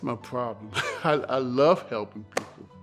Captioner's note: chuckles